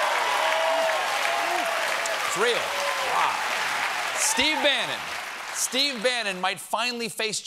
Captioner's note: cheers and applause